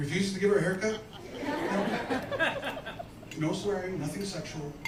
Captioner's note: laughter